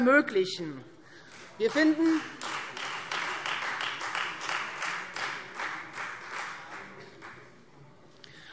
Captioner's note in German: Beifall Freie Demokraten